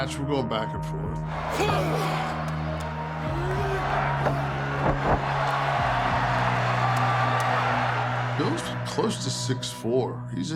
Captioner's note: applause